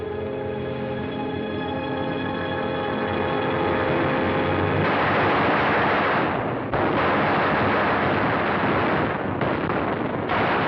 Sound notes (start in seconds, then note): 4.8 gunshots